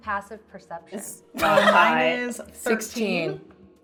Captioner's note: laughing